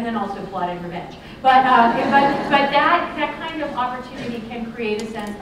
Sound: laughter

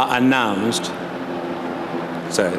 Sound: helicopter flying

